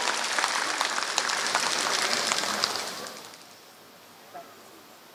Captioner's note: applause